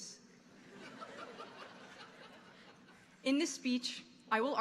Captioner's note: audience laughing